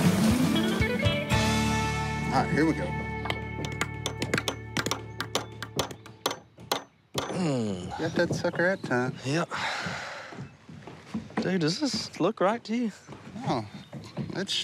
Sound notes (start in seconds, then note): 3.2 hammering